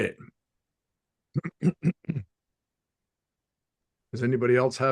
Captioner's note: clears throat